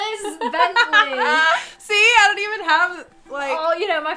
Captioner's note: laughs